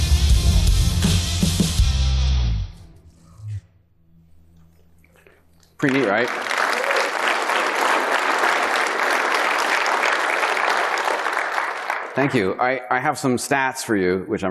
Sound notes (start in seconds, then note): 5.7 audience applauding